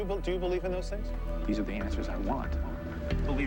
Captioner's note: none